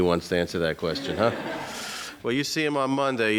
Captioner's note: audience laughs